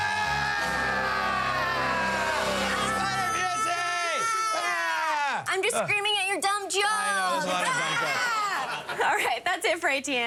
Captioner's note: screaming